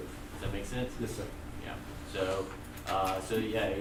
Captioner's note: voiceover